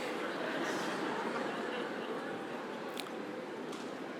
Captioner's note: audience laughing